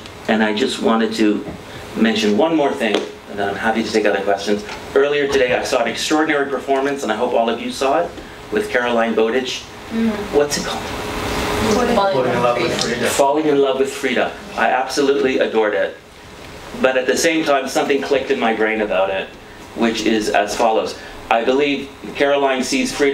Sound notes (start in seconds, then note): 10.1 whispers